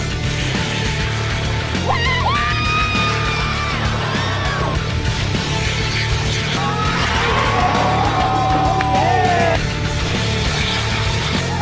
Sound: series of launches and indistinct cheers

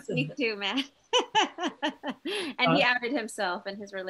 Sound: laughs

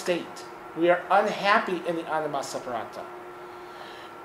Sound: speaking in foreign language

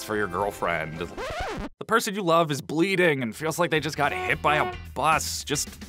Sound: record scratch

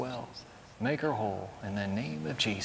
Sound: whispering

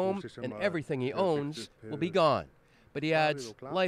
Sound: speaking alternate language

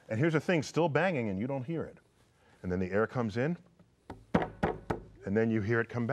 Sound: bangs on table

